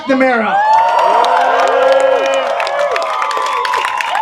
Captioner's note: applause